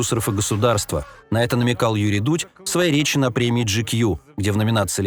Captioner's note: Russian